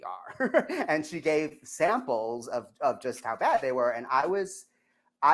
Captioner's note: laughs